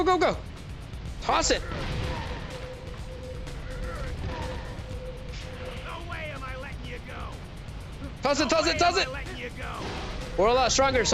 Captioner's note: groaning